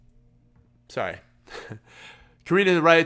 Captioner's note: laughs